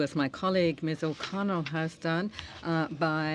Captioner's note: speaking french